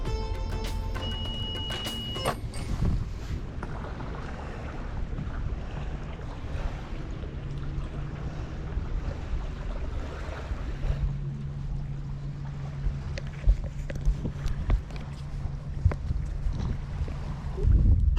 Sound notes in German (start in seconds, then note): 0.0 fröhliche Musik geht weiter; 4.0 Wassergrollen